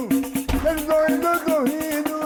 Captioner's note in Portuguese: batida forte na parede